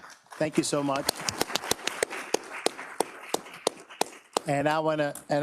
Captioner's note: audience clapping